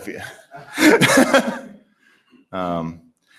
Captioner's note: laughter